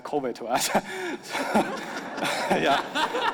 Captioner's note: audience laughing